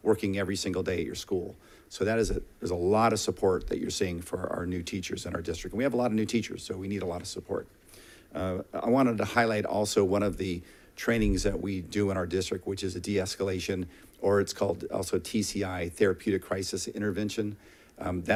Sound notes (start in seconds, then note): none